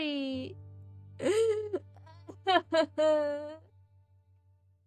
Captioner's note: sobs more